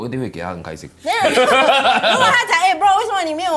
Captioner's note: laughs